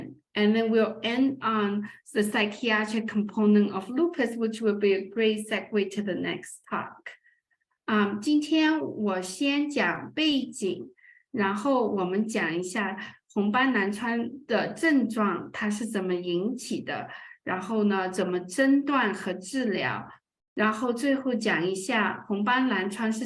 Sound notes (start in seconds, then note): 8.2 speaking chinese